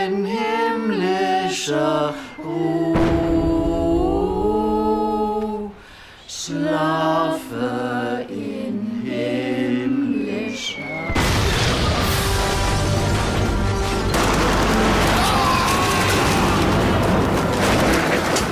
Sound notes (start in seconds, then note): 11.1 shell explodes nearby; 15.0 gunfire